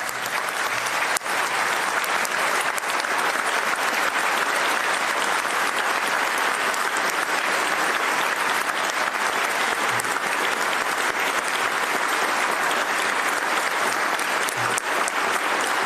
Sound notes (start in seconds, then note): 2.9 applause